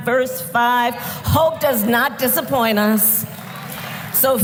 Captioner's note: applause